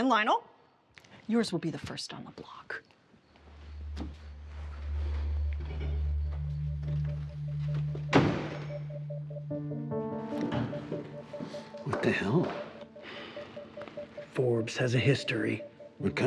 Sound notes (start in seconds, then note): 3.8 dramatic music; 7.9 door slamming; 9.9 dramatic music